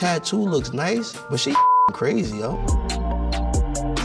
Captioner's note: beep; hip hop music